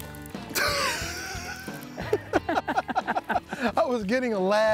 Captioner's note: both laughing